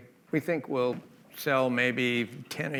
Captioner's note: none